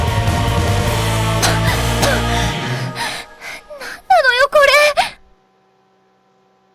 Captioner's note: coughing